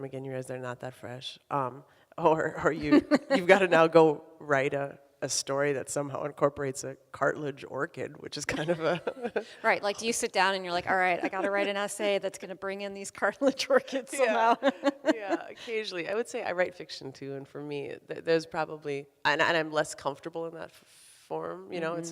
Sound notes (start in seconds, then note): 2.8 both laughing; 8.5 laughs